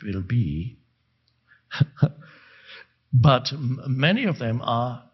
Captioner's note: chuckles